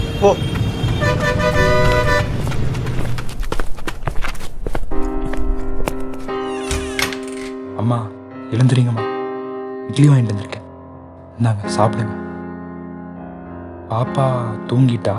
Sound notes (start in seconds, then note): 0.0 traffic noise; 6.2 door opens